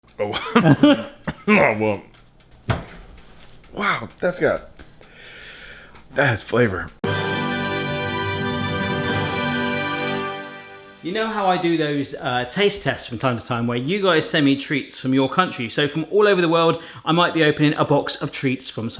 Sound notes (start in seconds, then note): 0.2 laughing